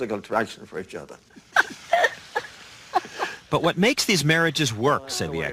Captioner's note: laugh